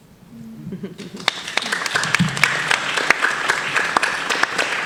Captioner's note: audience applauding